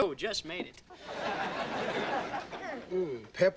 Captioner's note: audience laughing